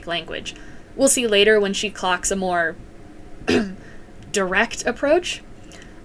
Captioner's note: ahem